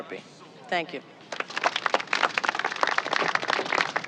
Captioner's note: applause